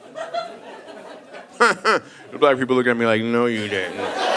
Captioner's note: laughs